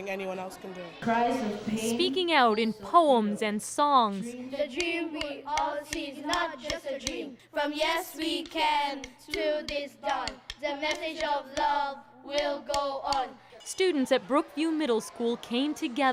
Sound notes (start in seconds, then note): 6.9 chanting